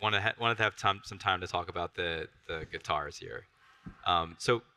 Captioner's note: none